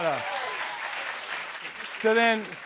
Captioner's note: applause